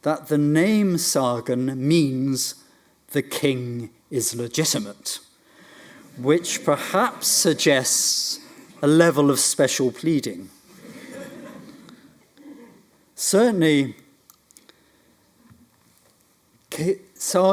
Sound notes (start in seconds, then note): 10.7 audience laughs